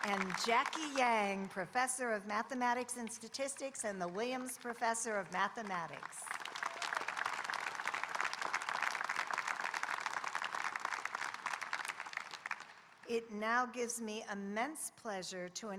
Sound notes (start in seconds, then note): 6.0 audience applauding